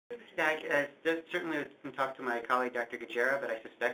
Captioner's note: voiceover